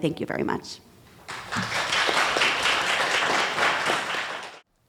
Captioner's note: applause